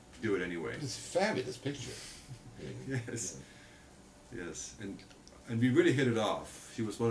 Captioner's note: laughs